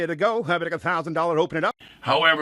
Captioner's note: auctioneer speaking fast